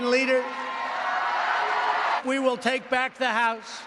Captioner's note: applause